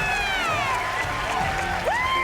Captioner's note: cheering